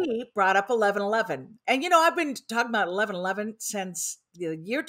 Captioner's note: none